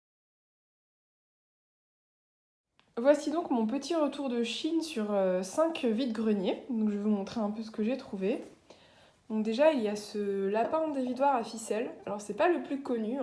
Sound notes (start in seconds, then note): none